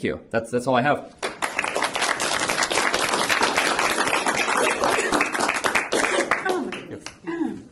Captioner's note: applause